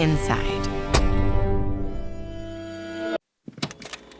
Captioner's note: sound of door closing